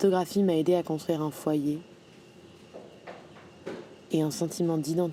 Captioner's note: speaking in a foreign language